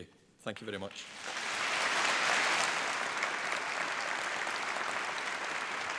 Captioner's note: applause